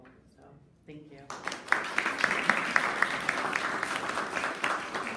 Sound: audience applauding

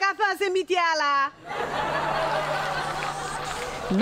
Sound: laughs

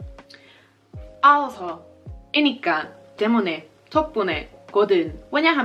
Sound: speaking Korean

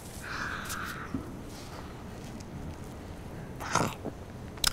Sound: lip smacking; deeply breathing in

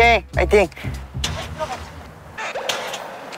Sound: car coughs

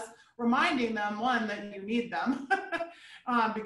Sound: chuckling

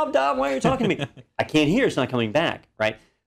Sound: laugh

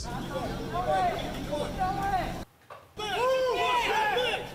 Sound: crowd shouting; police shouting

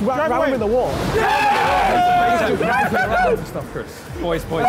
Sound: all cheering

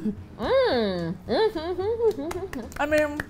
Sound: hums with delight, claps

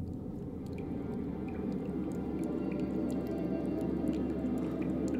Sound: water gently splashing

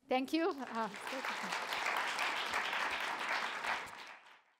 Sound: audience applauding

